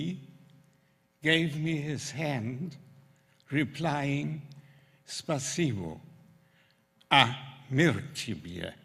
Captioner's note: russian